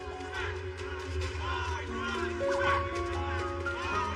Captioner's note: indistinct shouting